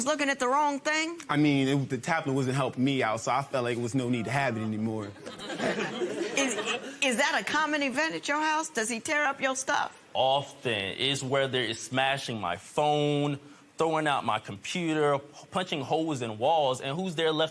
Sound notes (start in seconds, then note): 5.0 laughter